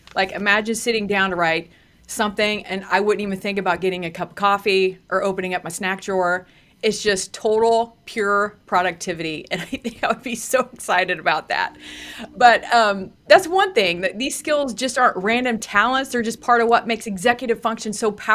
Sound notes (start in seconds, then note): 9.7 laughs